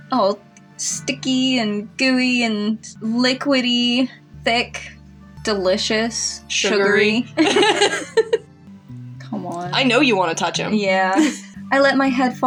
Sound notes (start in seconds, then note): 7.3 both Laugh; 11.2 chuckle